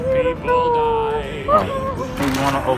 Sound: happy sound

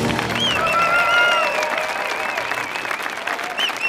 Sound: audience cheering

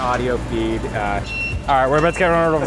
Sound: truck beeping

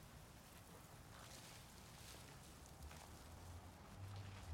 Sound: leaves rustling

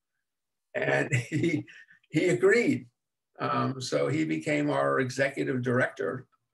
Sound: chuckles

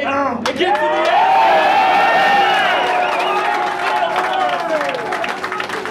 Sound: cheering and clapping

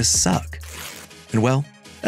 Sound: page tears

